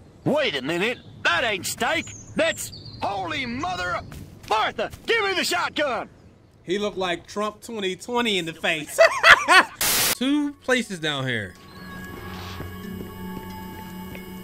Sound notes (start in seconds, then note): 9.2 cackles